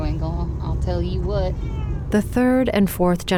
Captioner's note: meow